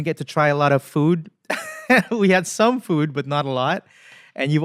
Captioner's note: chuckle